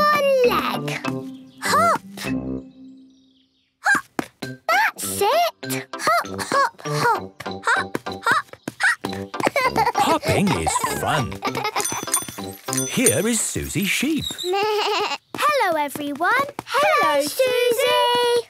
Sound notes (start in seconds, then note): 11.8 bike bell; 14.1 bleating